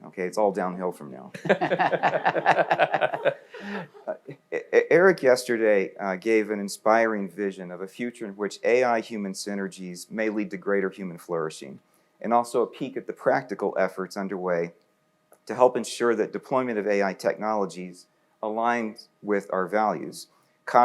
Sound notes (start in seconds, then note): 1.3 panelists laughing